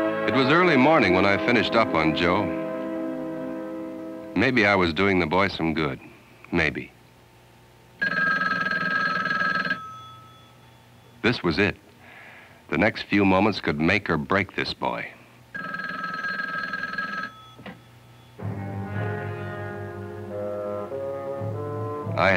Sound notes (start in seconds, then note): 8.0 payphone ringing; 15.5 payphone ringing